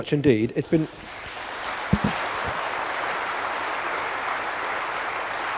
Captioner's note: applause